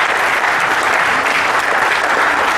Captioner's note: applause